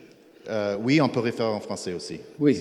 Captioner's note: speaking in French